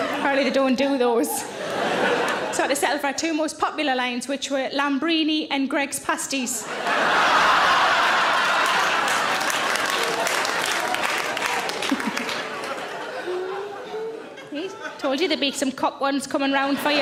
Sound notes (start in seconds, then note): 6.6 audience laughing; 7.1 audience applauding